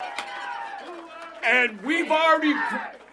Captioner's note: applause